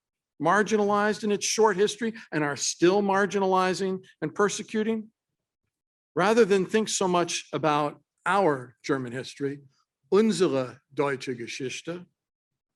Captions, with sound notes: Marginalized in its short history and are still marginalizing and persecuting? Rather than think so much about our German history [German Speech]...